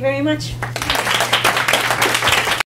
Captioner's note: applause